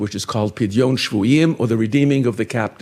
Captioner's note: speaking in foreign language